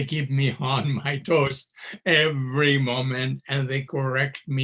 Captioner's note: chuckles